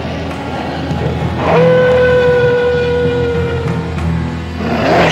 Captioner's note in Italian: ululato